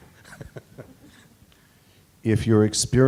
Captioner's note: chuckling